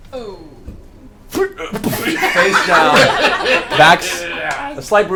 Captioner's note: impact sound